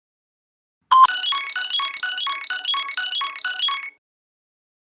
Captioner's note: ringtone beeping